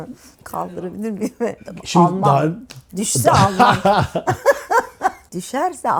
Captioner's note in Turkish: kahkaha